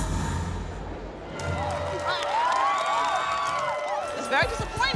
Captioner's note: cheering and applause